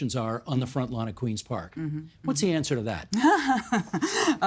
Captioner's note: laughing